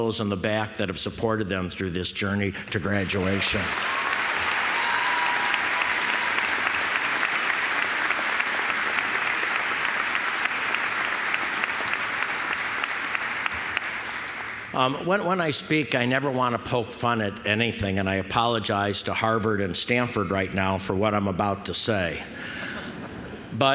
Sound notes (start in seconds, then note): 2.9 applause